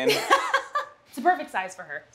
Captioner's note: laughter